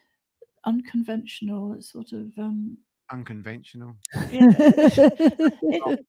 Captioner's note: laughter